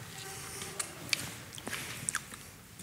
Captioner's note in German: Leises Schmatzen